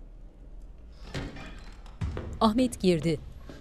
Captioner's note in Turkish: Kapı açılma sesi; Kapı gıcırdama sesi